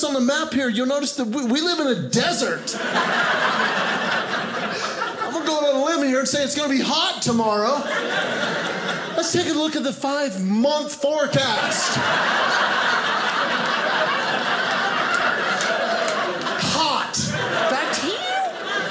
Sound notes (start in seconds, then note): 2.4 audience laughing; 11.1 audience laughing